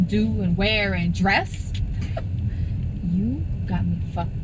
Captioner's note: scoffing